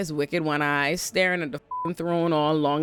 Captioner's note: beep